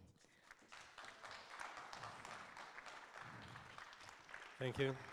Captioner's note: audience applauds